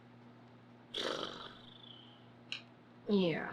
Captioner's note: blows raspberries